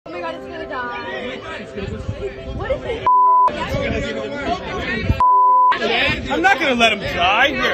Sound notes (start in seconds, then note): 0.0 people chattering; 5.2 beep